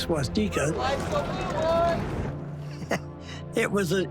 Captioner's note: shouting